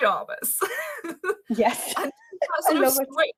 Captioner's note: chuckles